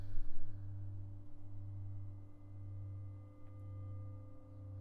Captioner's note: low humming continues